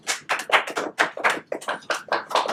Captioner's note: applause